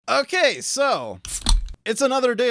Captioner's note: bottle opening sound